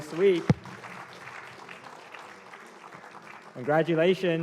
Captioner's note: applause